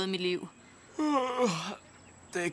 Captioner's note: yawning